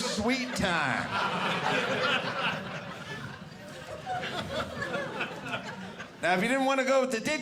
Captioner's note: audience laughing